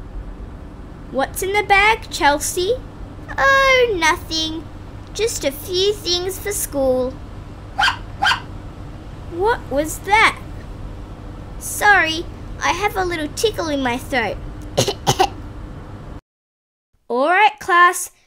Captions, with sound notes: What's in the bag Chelsea? Oh nothing Just a few things for school (Bark) (Bark) What was that? Sorry, I have a little tickle in my throat (cough) (cough) Alright class,